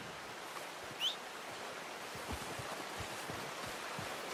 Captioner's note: Arthur whistles to his horse